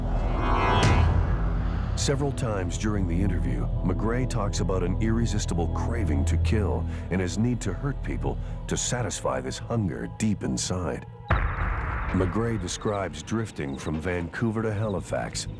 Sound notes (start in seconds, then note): none